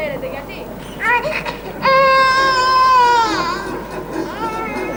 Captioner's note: Ακούγεται κλάμα μωρού